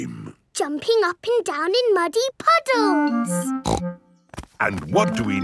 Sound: snorts

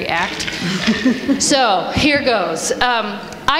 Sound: laughter

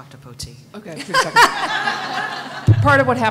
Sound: laughter

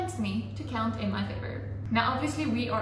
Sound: drier noise

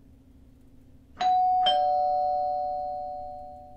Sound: doorbell rings

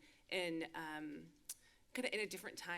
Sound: clicks tongue

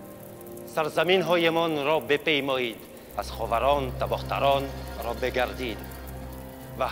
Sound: King Darius speaking in foreign language

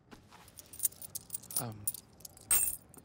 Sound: coins jingle

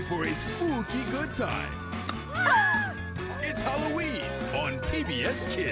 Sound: both yelping

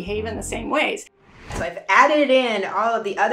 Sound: air whooshing

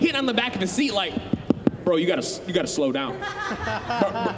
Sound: tapping noise; audience laughing

